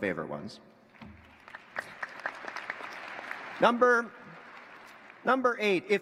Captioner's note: applause